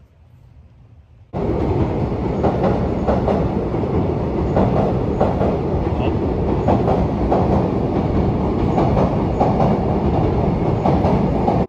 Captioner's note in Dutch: trein geluid